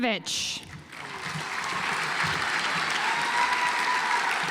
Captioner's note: audience applauds